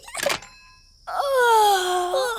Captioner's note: giggles; both yawn